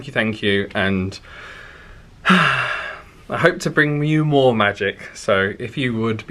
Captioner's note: deep sighing